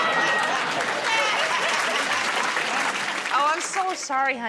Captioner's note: applause